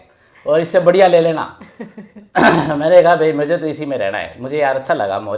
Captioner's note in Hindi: गला साफ़ करने की आवाज़